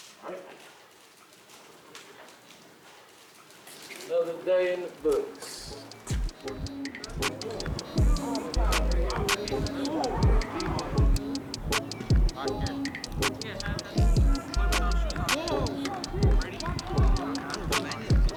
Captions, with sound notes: All right. Another day in the books. (hip hop beat begins) (team chatters) (hip hop beat plays)